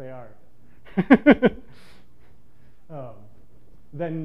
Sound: laughs

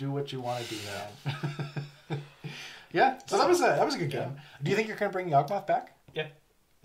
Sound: laughs

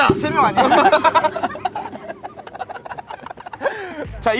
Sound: laughing

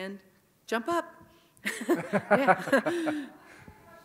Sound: laugh

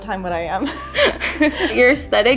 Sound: laughing

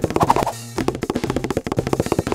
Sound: footsteps pattering; Assistant swooshing

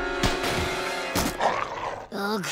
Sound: growling

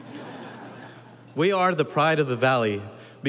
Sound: audience laughing

